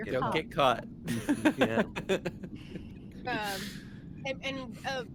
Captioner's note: laughs